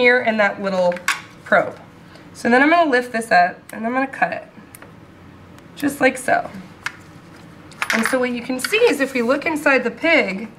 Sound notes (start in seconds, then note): none